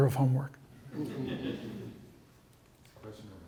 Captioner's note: laughter